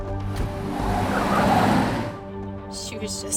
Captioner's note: tires squealing